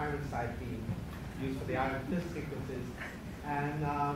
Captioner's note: murmurs